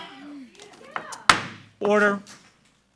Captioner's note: gavel bangs